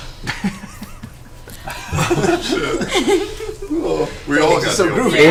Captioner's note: all laugh